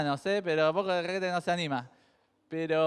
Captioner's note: jokingly